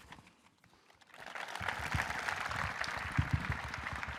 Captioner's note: audience applauding